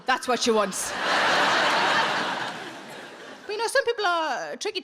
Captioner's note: audience laughs